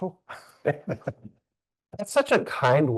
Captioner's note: chuckling